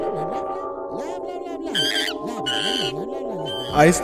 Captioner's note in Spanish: chillido de mono